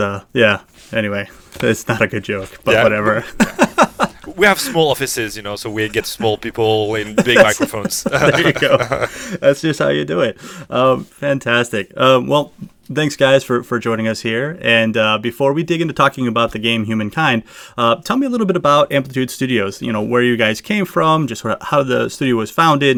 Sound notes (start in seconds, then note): 2.6 laughs; 7.0 laughter